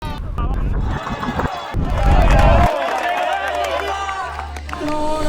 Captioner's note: crowd cheering